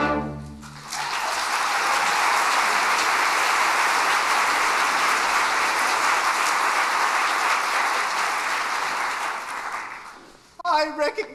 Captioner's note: applause